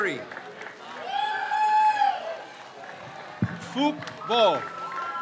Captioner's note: crowd cheers